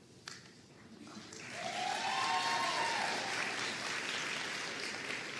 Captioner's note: audience cheering and applauding